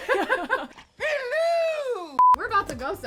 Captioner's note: both laugh; beep